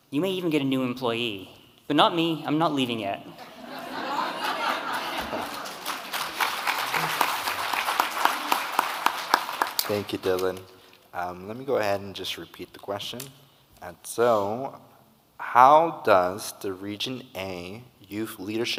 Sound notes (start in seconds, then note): 3.4 audience laughing; 6.4 audience clapping